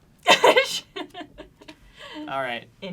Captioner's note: laughs